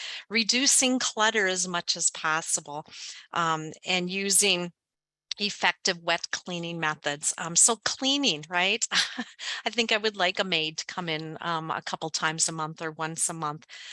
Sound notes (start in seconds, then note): 8.8 laughs